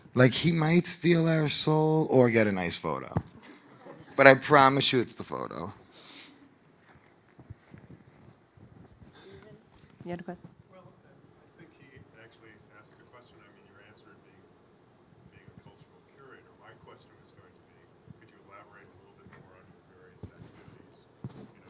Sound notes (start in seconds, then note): 3.4 audience laughing